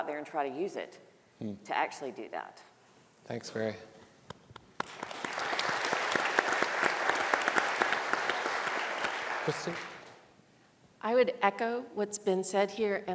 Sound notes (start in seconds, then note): 4.5 panelists applauding; 4.6 audience applauding